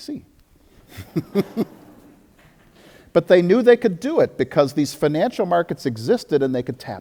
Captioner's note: audience laughter